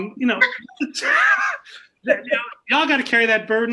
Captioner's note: laughs